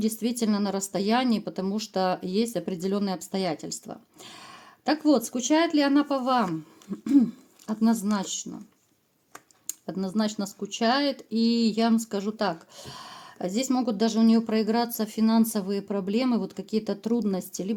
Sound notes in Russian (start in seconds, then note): 6.9 откашливается